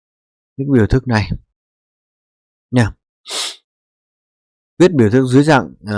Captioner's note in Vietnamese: khịt mũi